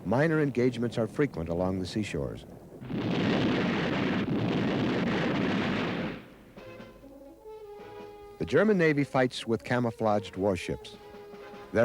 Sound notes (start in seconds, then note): 2.7 shells blast; 4.3 cannons blast; 6.3 inconstant music